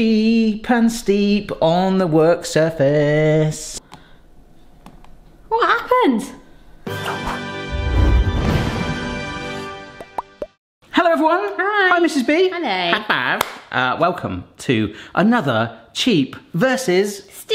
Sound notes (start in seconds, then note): 6.8 musical blast; 10.2 popping; 13.4 hands slap